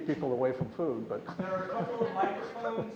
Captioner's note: laughs